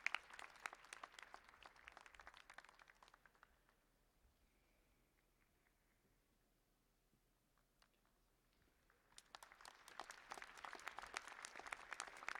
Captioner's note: applause